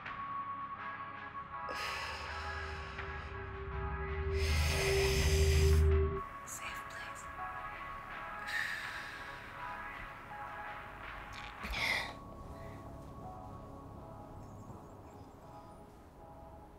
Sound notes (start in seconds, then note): 1.8 exhales; 4.3 sharp inhale